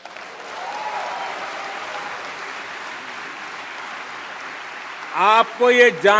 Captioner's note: laughter/Applause